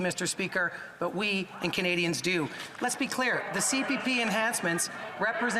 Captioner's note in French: voix de l'interprète